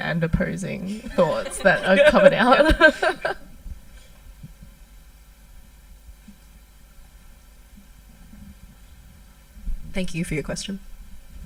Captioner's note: laughs